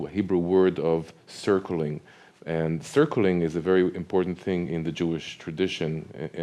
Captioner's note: speaks Hebrew